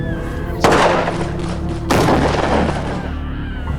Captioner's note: guns banging